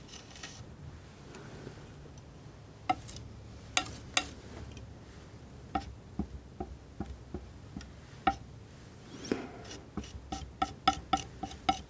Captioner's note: tapping